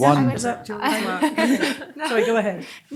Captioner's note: laughs